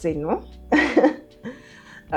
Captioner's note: laughs